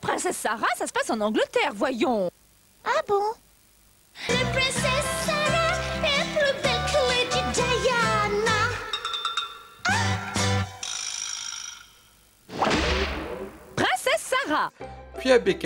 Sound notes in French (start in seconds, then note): 3.0 Avec l'accent anglais